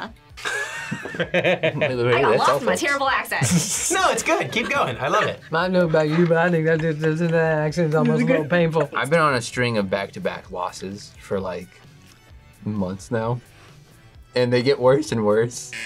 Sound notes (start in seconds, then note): 0.4 chuckles; 5.0 as Boomhauer; 6.7 speaks gibberish